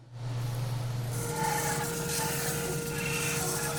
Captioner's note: sawing